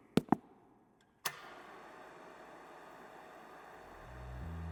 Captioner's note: projector clicks